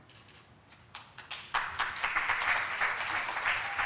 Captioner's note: applause